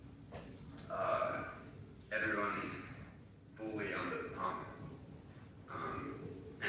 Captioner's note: audio distorts